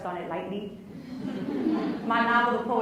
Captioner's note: laughs